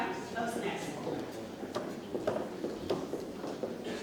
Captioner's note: shoes tapping